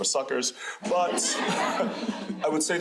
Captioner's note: crowd laughing